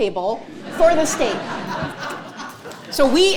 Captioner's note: audience laughing